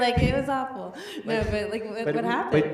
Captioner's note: laughs